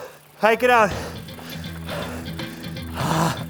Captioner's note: gasping